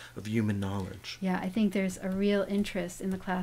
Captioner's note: voiceover